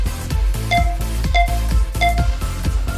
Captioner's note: beeping; upbeat music